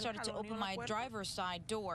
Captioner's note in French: speaking non-english language